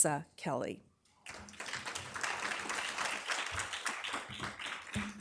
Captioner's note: audience clapping